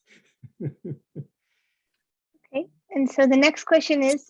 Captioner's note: giggling